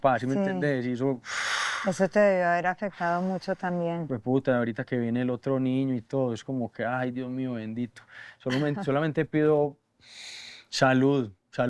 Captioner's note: inhales